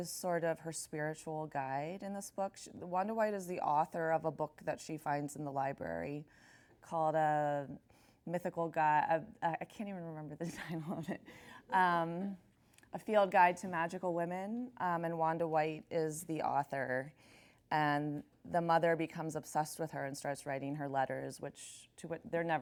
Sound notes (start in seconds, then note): 10.5 chuckles